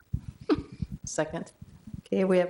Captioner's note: chuckle